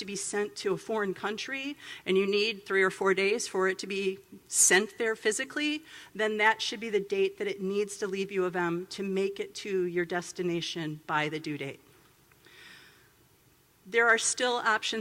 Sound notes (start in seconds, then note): none